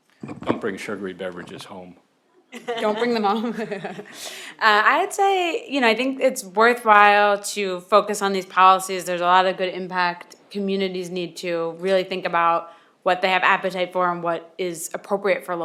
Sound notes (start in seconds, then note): 4.1 laughs